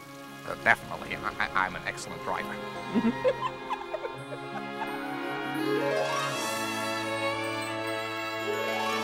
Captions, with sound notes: Definitely. I'm an excellent driver. (CHUCKLING)